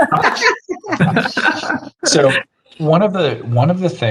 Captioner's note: panelists laugh